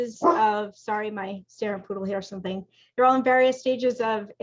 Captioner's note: speaking faintly